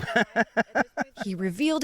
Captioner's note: laughter